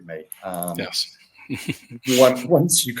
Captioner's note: chuckles